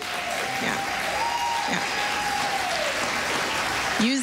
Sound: cheering, applause

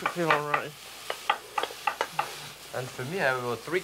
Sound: knife chopping

